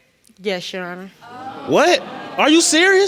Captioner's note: audience mumbling